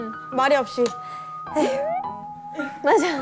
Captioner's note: sigh